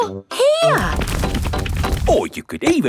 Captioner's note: drilling